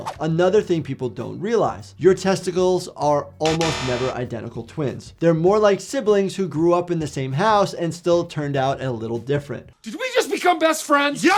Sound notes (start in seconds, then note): 3.5 bell buzzes